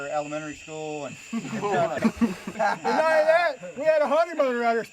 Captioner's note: laughing